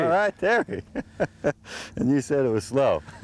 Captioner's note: laughter